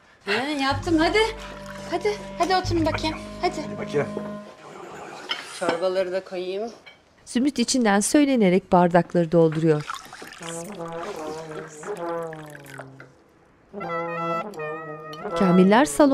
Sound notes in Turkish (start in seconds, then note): 9.7 Mırıldanma sesi